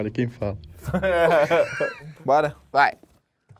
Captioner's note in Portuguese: risadas